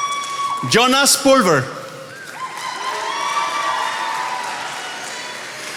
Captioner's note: attendees applauding